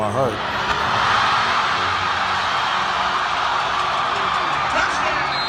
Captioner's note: crowd cheering